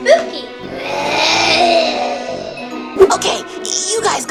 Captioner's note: zombie sounds